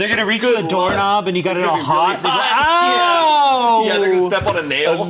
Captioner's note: screams